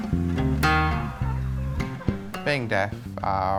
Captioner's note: clucking